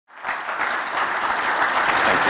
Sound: applause

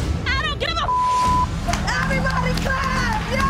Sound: beep sound

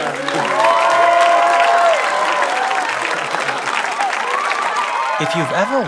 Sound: cheering

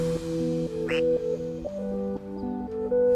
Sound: soft music; duck quack; soft music

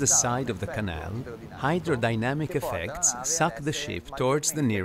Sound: voiceover speaking Italian

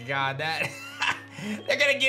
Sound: chuckles

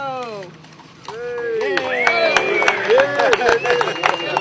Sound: crowd cheering

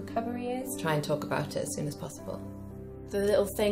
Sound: voiceover

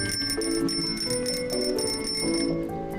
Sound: jingles bicycle bell

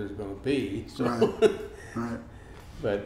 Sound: laughs

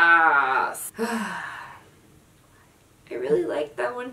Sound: sigh

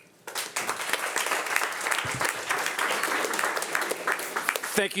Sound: audience applauding

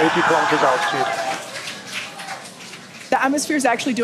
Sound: audience laughing

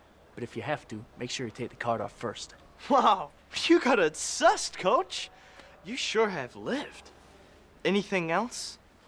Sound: none

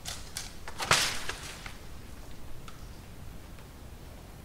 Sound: crashing sound

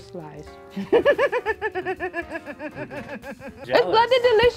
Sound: laughs

